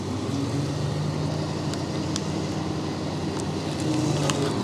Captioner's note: machinery humming